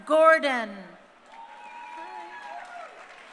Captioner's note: crowd cheering